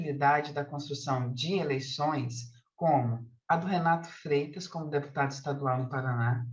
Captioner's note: continues speaking in Portuguese